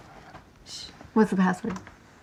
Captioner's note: Genevieve shushing